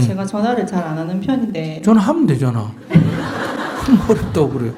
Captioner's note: audience Laughter